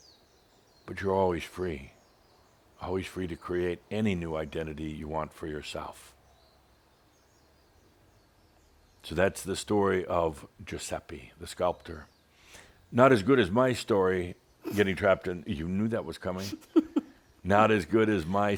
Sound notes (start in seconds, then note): 13.5 snorts; 16.4 giggles